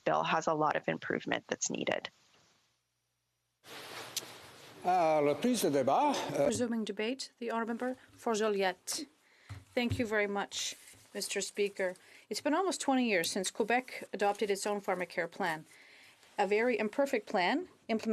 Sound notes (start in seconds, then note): 11.4 speaking French